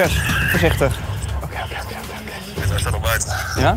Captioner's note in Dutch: fluistert; via microfoon